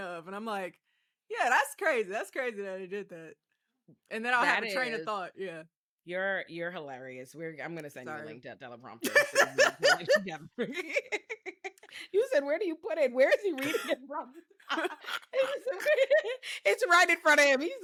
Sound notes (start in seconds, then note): 10.7 laughing; 14.6 laughing